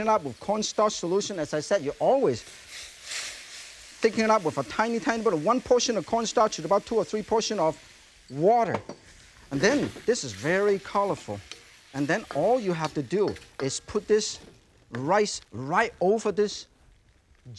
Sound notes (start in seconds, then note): 2.6 mushrooms sizzling; 8.5 pitcher thuds softly; 9.5 pan rattles; 12.1 pan clinking